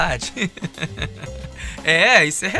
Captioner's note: laughs